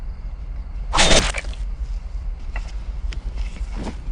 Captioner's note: metallic whooshing